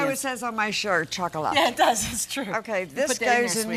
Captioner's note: laughing